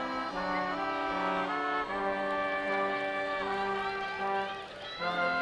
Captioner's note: people chattering distantly; reflective orchestral music continues